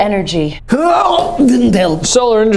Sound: Vlad grunting

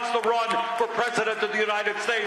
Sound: applause

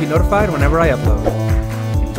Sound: swoosh

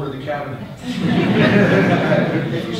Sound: audience laughter

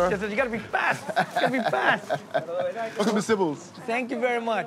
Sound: laughing

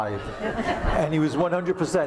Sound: laughter

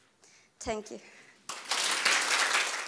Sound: claps

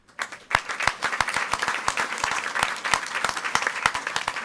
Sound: audience applauding

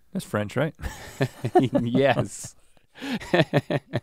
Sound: chuckles

